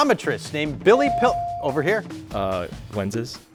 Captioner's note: buzzer dings